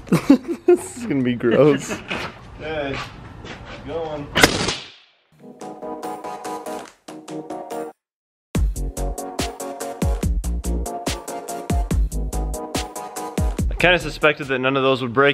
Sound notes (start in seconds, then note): 0.0 laughs; 4.4 shoots air cannon; 5.7 upbeat music